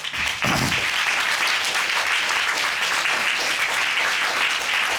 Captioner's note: applause